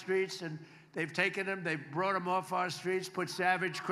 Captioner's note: applause